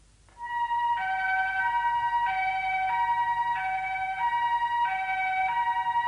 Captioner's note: fire siren